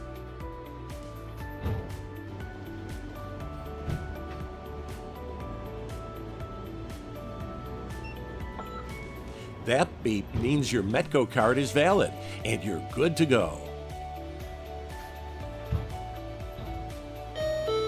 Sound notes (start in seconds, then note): 7.8 beep